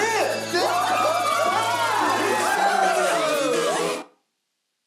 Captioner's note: cheering